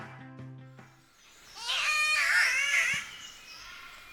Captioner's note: catbird call